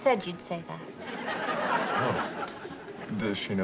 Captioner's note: audience laughs